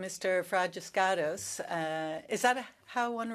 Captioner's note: speaking French